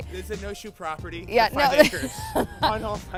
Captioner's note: laughing